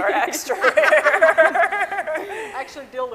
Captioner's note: scientists laughing